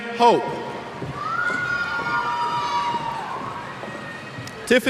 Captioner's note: cheers